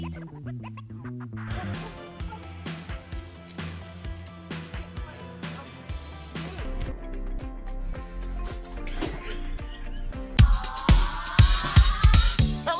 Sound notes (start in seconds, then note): 0.1 upbeat music; 2.2 fun music; 6.7 upbeat music; 8.9 woman laughing; 10.4 fun music